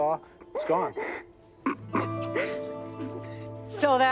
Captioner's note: crying